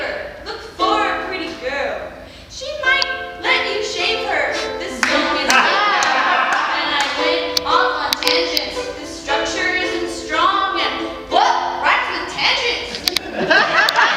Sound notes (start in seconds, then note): 5.5 laughter